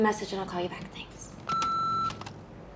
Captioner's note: beeps